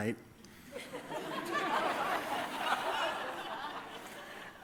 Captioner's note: laughter